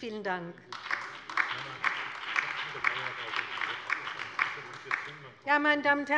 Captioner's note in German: Allgemeiner Beifall